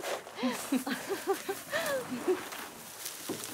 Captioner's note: ríe